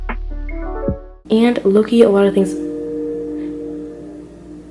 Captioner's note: outro music plays; train horn sound